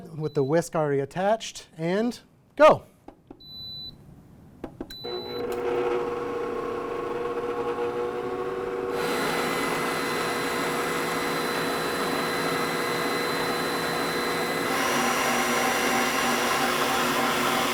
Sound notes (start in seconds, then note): 3.5 mixer beeping; 5.7 mixer whirring